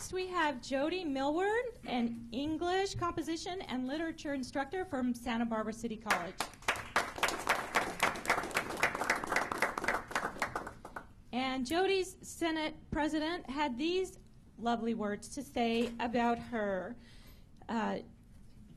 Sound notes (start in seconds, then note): 8.6 applause